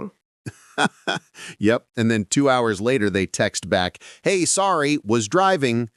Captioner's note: laughs